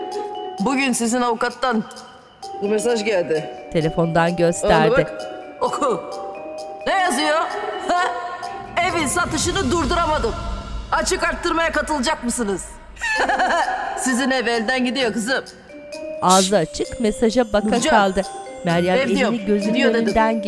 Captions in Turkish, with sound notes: Bugün sizin avukattan bir mesaj geldi. Aha da bak, oku. Ne yazıyor, hı? "Evin satışını durduramadım... ...açık artırmaya katılacak mısınız?" (Gülme sesi) Sizin ev elden gidiyor kızım. Hişt, Nurcan! Ev diyorum, gidiyor dedim.